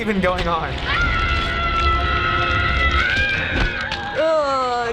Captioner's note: woman screaming in agony